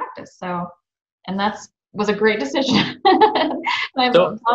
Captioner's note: laughs